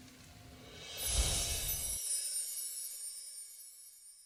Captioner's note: whooshing